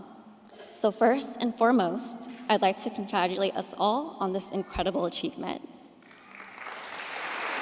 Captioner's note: applause